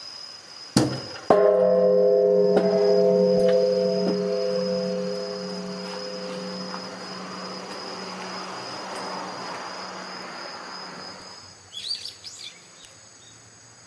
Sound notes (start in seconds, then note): 1.3 dong